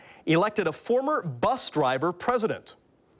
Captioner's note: none